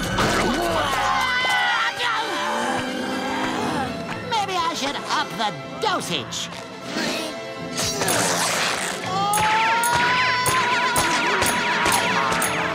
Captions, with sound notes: [grunting] Maybe I should up the dosage. [yelling]